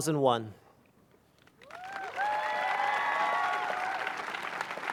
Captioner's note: applause